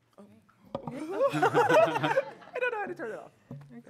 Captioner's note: laughing